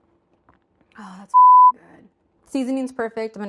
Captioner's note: beeps